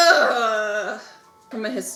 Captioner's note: groans